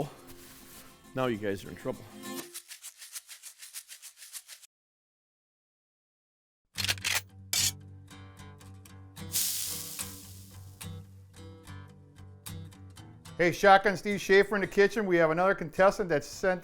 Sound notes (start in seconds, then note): 4.3 guncocks; 9.2 sizzle